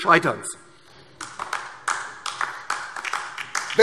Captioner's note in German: Beifall DIE LINKE